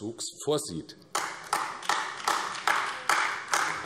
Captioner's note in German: Beifall AfD